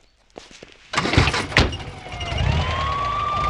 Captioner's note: car Engine Start